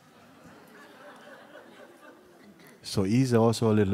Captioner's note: laughter